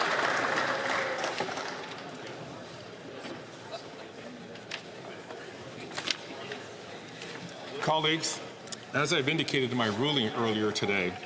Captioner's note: some Applause